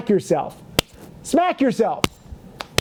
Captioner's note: slapping face; slapping face